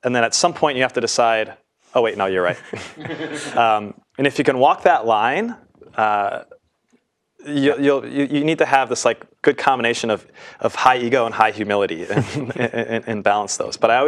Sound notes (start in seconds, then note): 2.5 laugh